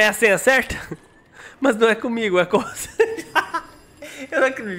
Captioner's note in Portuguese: risos